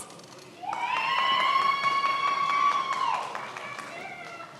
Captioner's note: many applauding